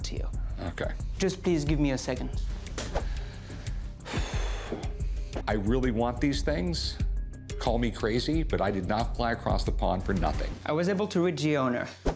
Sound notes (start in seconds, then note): 2.6 exhales